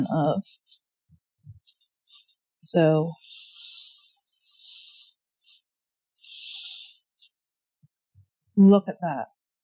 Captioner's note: long drawing noise strokes